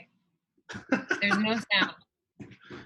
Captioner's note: laughing